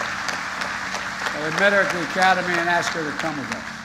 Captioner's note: applause